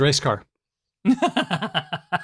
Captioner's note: laughs